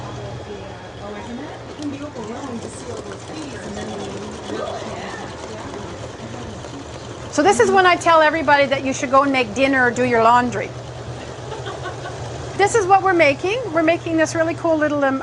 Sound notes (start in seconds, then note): 1.4 background talking